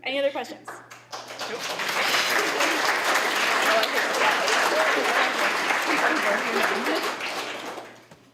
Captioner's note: applause